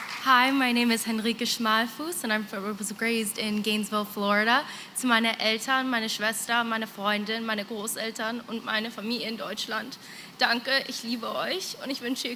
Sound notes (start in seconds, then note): 4.9 non-english